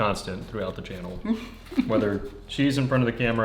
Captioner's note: laughs